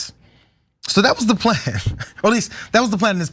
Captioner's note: laugh